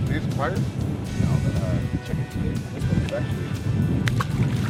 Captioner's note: men murmur; upbeat music